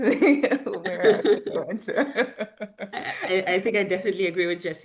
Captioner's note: laughs